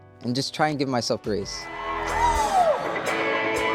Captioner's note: crowd cheering